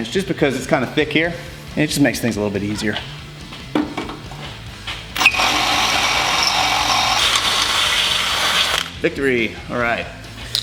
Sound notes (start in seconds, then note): 5.1 drill whirring